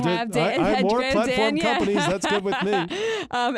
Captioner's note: laughs